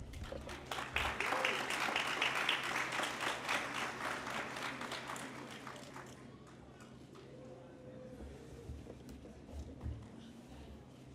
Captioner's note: applause